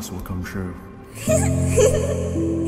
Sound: giggles

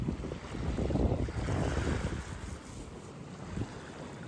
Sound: sweeping

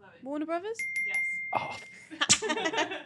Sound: bell chimes

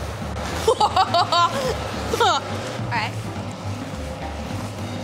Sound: laughs

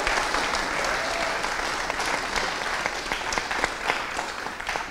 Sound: audience applauding

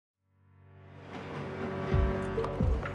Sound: train rumbles; upbeat music

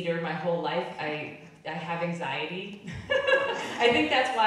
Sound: laughing

